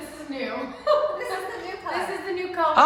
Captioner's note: laugh